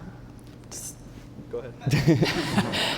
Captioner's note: laughter